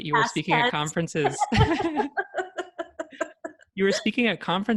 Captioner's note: laughter